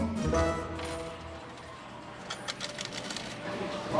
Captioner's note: change clanks